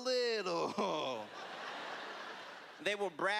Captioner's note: laughter